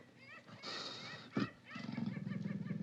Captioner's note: panther hisses